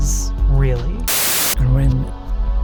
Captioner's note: static, music reverses